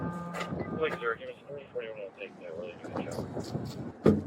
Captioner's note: radio chatter